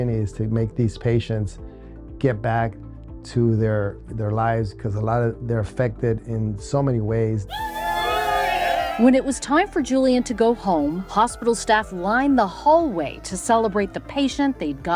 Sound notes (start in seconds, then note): 7.5 nurses cheering